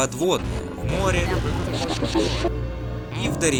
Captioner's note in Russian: искажённые звуки